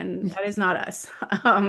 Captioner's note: laughs